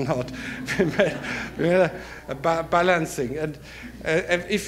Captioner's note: audience laughter